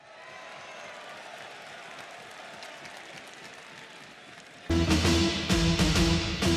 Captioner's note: crowd cheering